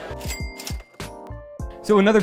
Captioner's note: bell chimes